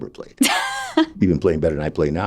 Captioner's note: laughing